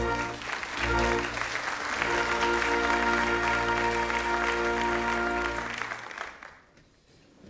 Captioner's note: applause